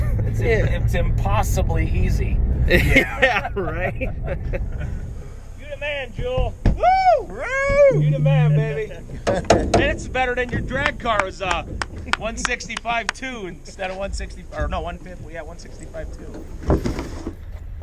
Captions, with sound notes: It's impossibly easy. - Yeah, right? - You the man, Jewell! (cheering) You the man, baby! - It's better than your drag car was, huh? 165.2 instead of 160, or no, 150? Oh yeah, 165.2.